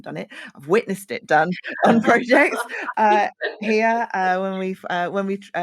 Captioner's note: laughs